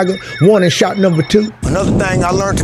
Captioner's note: siren blares